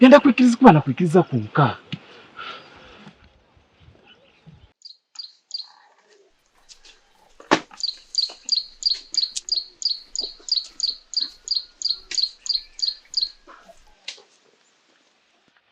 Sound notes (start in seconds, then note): 4.8 birds singing